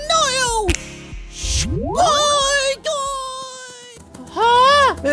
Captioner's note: snap; shwoop noise; running sound